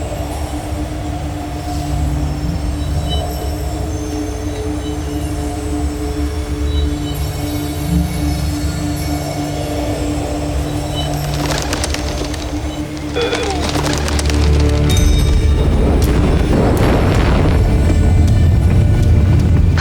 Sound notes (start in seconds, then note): 0.2 mystical music playing; 10.2 birds fluttering; 12.9 birds chirping & fluttering; 15.1 tense music playing; 17.2 infernal whoosh-crackle